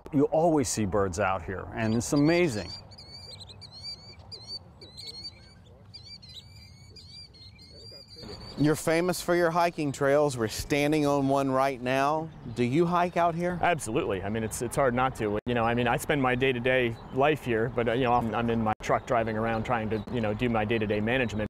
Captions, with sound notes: ALWAYS SEE BIRDS OUT HERE, AND IT'S AMAZING. >> [BIRDS CHIRPING] >> YOU'RE FAMOUS FOR YOUR HIKING TRAILS, WE'RE STANDING ON ONE RIGHT NOW, DO YOU HIKE OUT HERE? >> ABSOLUTELY, I MEAN IT'S, IT'S HARD NOT TO, YOU KNOW, I MEAN I SPEND MY DAY-TO-DAY LIFE HERE, BUT YOU KNOW, I'M, I'M IN MY TRUCK DRIVING AROUND TRYING TO, YOU KNOW, DO MY DAY-TO-DAY MANAGEMENT, BUT